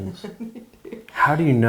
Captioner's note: they chuckle